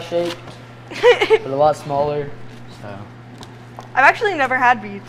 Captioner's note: giggles